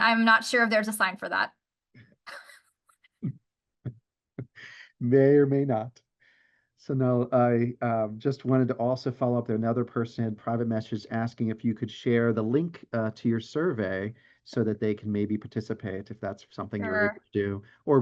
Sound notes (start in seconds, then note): 4.4 laughs